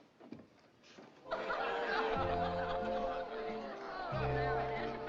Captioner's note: chattering, Laughing